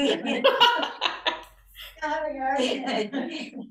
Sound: laughter

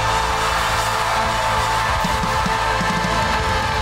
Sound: crowd cheering

